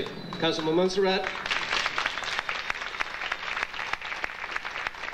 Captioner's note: audience clapping